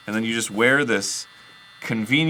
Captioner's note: audible mechanical humming